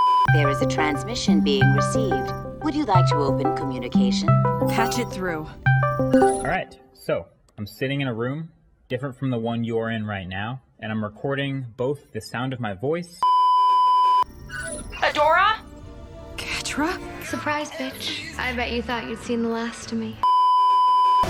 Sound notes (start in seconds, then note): 0.0 beeeeeeeeeeeep; 6.1 call comes in; 13.2 beeeeeeeeeeeep; 20.2 beeeeeeeeeeeep